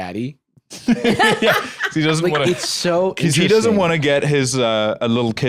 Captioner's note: laughs